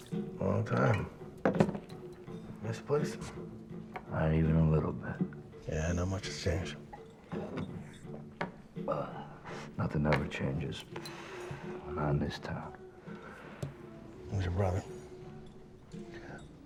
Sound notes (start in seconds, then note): none